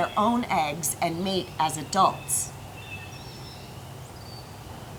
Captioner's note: bird sounds